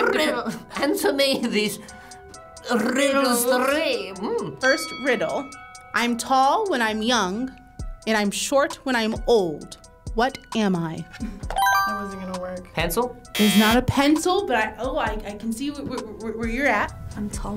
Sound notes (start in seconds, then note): 4.8 bell dings; 13.3 buzzer blares; 13.3 buzzer chimes